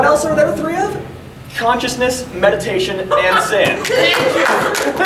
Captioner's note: audience laughing